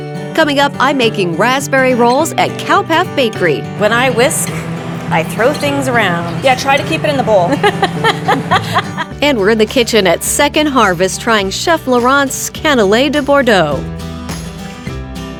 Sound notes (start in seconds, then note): 7.2 laughing